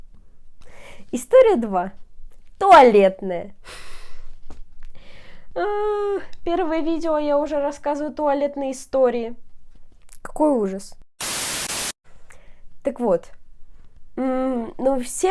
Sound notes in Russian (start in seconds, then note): 5.5 стон позора